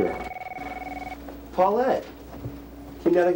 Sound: phone ringing

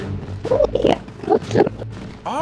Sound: enderman noises

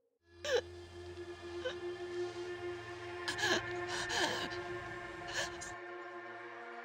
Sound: dark tense music; Brigit wheezing

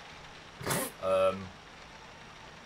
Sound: snorts

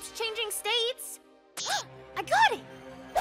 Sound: gasps

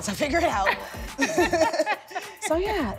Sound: laughing

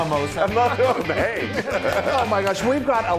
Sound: laugh

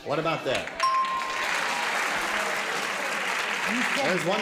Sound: ding

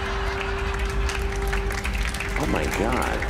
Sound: applause

